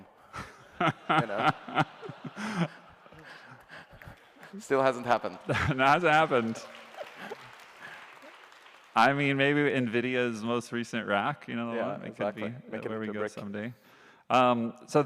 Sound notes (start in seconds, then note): 0.4 laughter; 7.2 applause